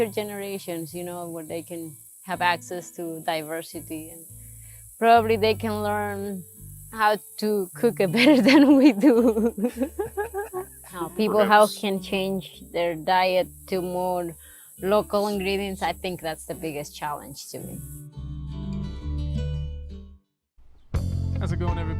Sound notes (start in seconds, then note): 9.8 both laughing; 19.4 gentle music